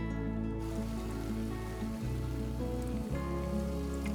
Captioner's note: liquid bubbling